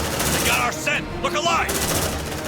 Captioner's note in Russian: стрельба заглушает музыку